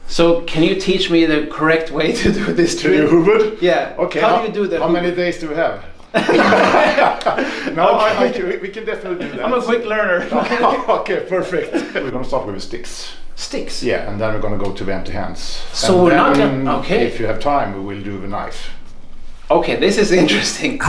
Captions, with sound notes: So can you teach me the correct way to do this? - To do hubud? - Yeah, how do you do it? - How many days do we have? (both laugh) We can definitely do that. - I'm a quick learner. - Okay, perfect. We're gonna start with sticks. - Sticks? - Yeah. And then we're gonna go to hand to hand. And then, if you have time, we will do the knife. - Okay, this is interesting.